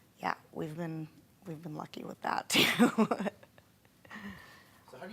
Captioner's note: laughing